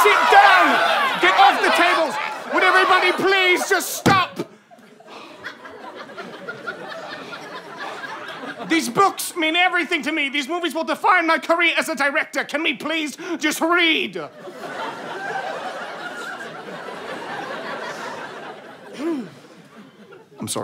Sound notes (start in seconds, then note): 5.0 breathing heavily; 14.2 audience laughing